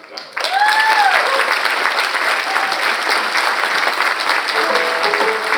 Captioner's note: audience applauding; audience cheers; bright music